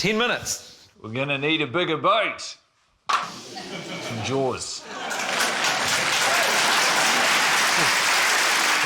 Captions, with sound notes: 10 minutes? - We're gonna need a bigger boat. It's from Jaws. (CHEERING, APPLAUSE)